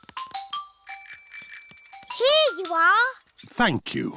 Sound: bell rings

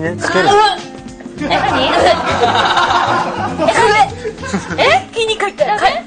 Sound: gagging

